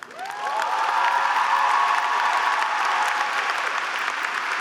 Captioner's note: group cheering